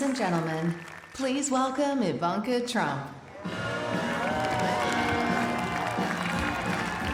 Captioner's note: applause